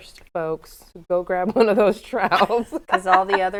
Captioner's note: laughs